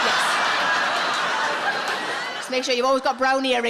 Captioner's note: audience laughs